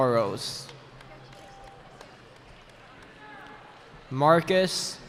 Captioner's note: cheering